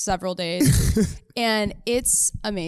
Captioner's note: laughs